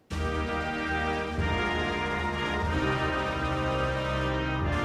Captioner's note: speaking French